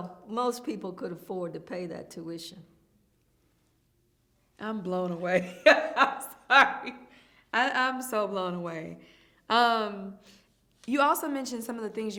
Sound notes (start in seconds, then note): 5.4 laughs